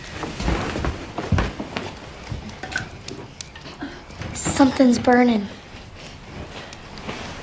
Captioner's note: sighs